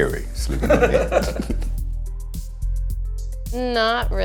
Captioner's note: laughs